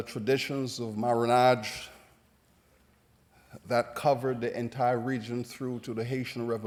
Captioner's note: non-english